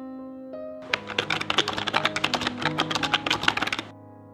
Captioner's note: typing sounds